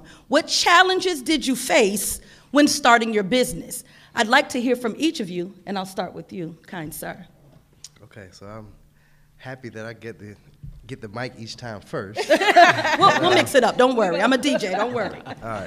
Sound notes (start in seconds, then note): 12.2 all laughing